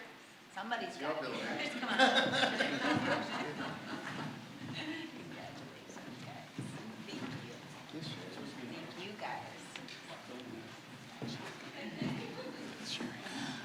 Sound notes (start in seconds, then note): 1.3 general chatter